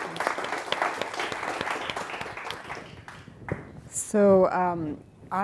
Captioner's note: audience applauding